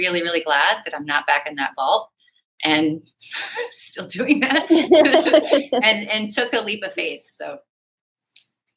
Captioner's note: laughter